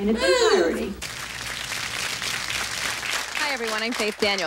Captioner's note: audience applauding